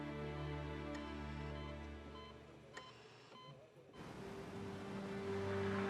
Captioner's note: monitor beeping